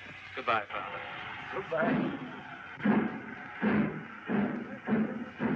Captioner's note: train chugging